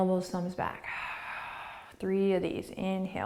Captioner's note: exhaling